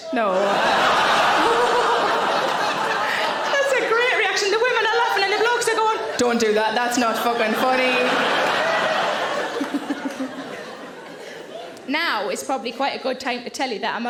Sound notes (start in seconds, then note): 0.7 audience laughing; 8.0 audience laughing; 9.3 Sarah laughing